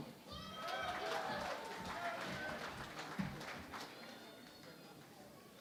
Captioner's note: cheering and Applause